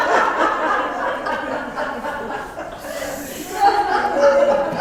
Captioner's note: laugh